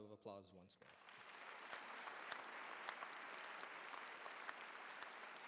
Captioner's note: applause